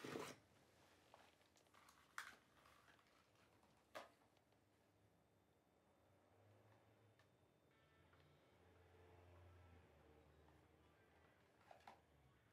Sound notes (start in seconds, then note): none